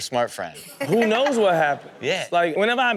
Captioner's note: Chanel laughs